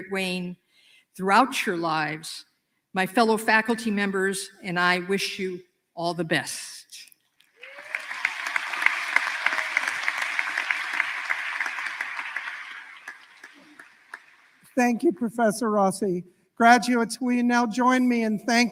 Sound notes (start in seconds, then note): 7.5 applause